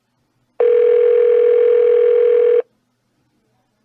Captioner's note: phone still ringing